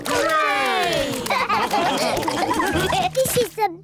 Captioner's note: all laugh